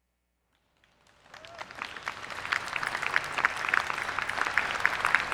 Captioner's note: attendees clapping